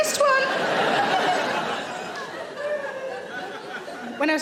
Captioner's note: audience laughing